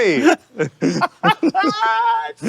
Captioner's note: laughing